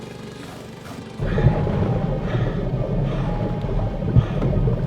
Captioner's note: labored breathing